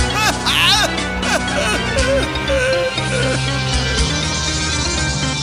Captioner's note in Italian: risata diventa pianto